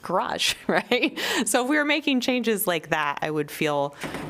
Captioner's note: laughter